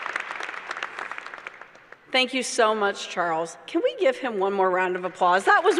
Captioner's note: applause